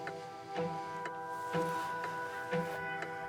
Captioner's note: inhales deeply, sighs